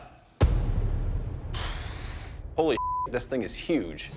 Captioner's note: exhales